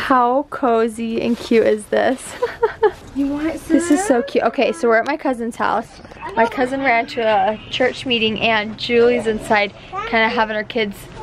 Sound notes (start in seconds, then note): 2.2 laughs